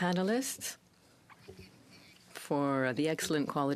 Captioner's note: speaking french